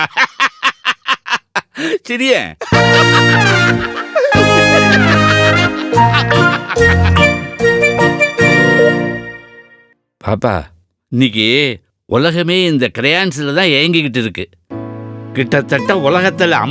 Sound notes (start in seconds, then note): 0.0 grandpa alone laughs; 2.5 Bhaskar guffaws